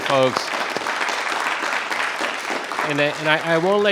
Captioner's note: attendees applauding